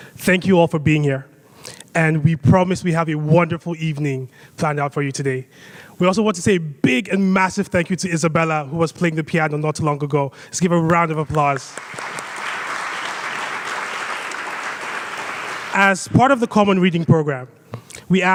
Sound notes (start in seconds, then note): 10.9 claps; 11.3 audience applauds